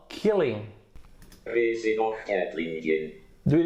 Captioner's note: Google Translator robotic voice